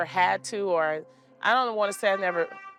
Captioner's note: horn honking